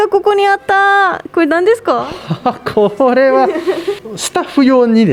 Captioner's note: laughs